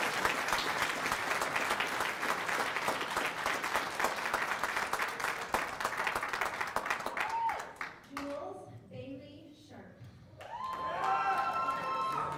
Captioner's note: cheers and applause